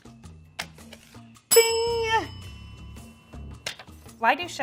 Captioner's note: bell ringing